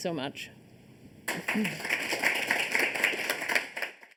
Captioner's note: applause